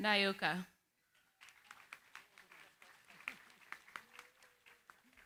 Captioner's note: applause